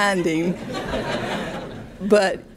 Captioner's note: audience laughing